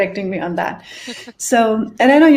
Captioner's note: chuckles